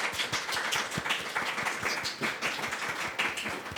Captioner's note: audience applauding